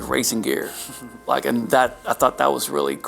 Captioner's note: Harry chuckles